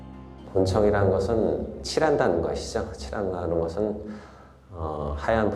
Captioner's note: speaking in Korean